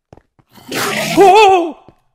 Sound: Enderman screams

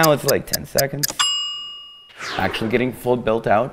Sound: dings

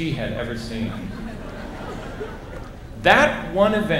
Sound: laughter

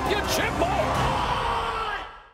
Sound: screaming

